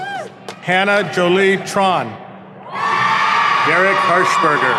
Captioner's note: audience cheering